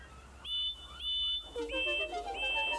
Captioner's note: toot toot